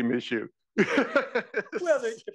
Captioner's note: laugh